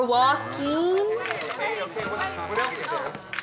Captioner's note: indistinct chattering